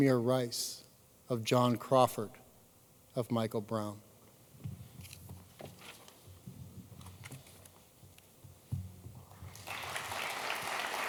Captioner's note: applause